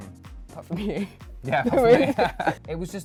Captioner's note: laughing